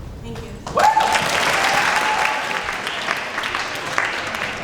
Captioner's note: applause